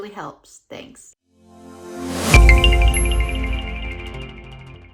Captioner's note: logo ringing